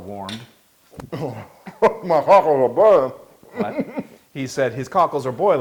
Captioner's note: laugh